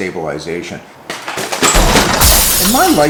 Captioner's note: crashing